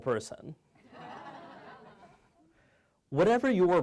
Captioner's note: audience laughing